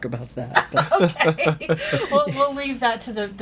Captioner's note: all laughing